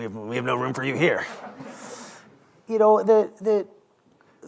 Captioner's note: laughter